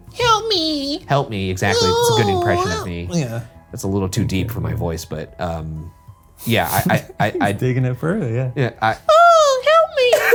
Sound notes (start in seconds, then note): 1.8 groaning; 6.6 laughing